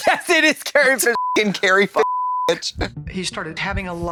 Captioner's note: beep